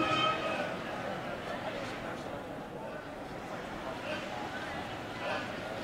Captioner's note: chatter